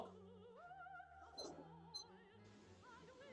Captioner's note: stopwatch beeps